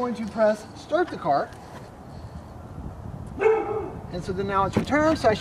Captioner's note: dog barking